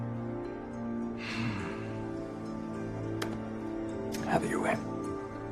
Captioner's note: Bill sighs